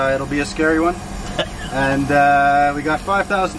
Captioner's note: laughs